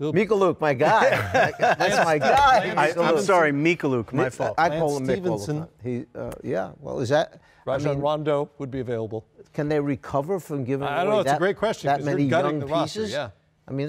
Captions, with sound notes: - Mykhailiuk, my guy. [laughter] That's my guy. - I'm sorry, Mykhailiuk, my fault. - And Stephenson. - I call him Myk all the time. - Yeah, what was that? - I mean, Rondo would be available. - Can they recover from giving away-- - I don't know. It's a great question. - --that many young pieces. - You're gutting the roster, yeah.